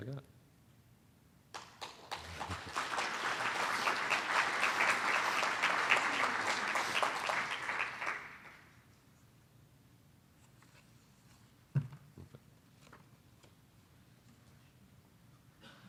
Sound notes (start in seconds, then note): 1.5 applause; 6.7 silence